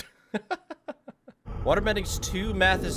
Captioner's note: laughs